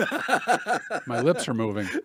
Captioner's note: laughs